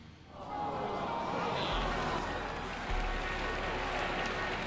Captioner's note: audience gasps; audience chattering